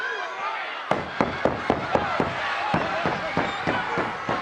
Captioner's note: Paul pounding